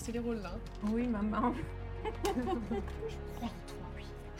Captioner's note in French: petits rires